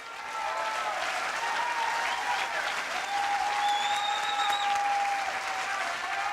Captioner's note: audience applauds